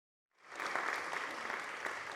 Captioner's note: applause